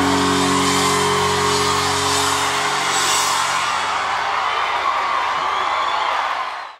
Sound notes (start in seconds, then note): 0.0 cymbals crashing; 4.7 crowd cheering